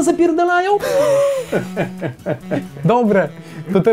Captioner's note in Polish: Śmiech Antka i Szwagra